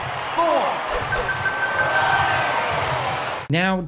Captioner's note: in-game crowd cheering continues